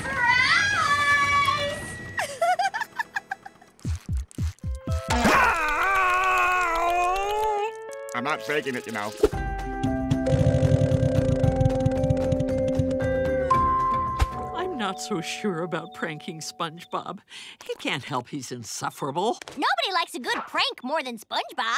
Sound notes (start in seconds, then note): 2.2 laughing; 3.8 beating